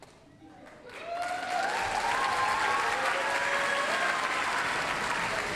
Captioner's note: applause, cheering